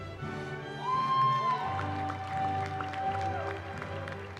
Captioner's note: cheering